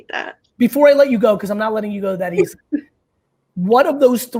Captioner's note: laughs